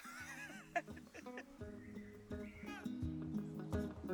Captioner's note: laughter